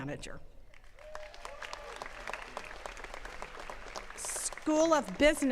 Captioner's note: attendees cheering and clapping